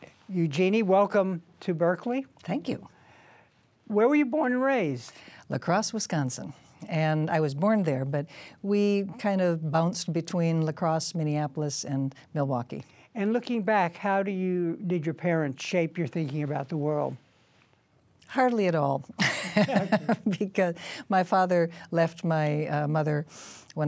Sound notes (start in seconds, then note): 19.2 laughs